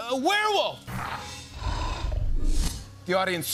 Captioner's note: growling